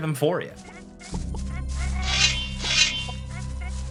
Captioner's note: swords clinking